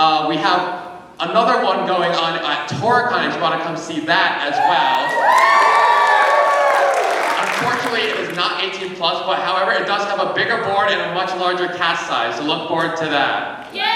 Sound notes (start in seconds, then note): 4.4 cheering